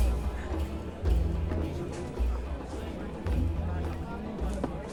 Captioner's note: indistinct chatter